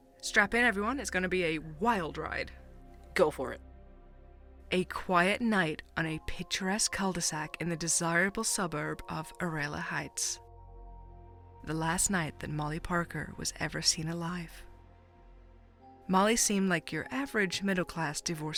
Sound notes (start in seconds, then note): 4.4 dramatically